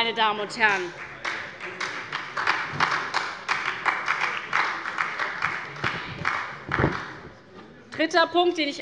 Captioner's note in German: Beifall bei der SPD